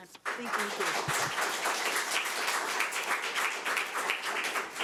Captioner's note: audience applauds